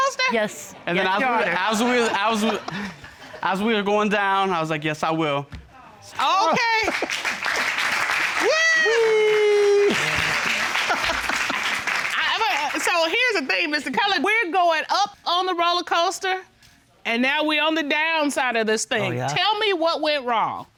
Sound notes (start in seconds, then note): 6.8 audience applauding; 8.3 laughs